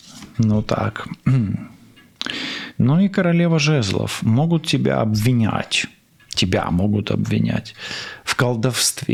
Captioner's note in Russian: откашливается